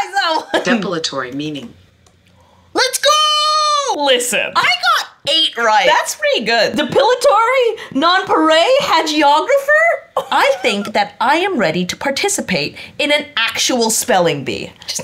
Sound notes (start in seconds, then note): 0.0 laughs; 10.2 laughs